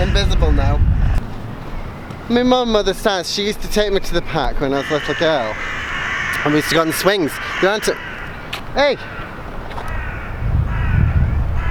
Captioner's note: bird Crows